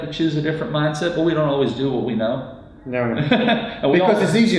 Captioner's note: laughs